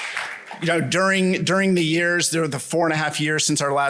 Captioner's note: applause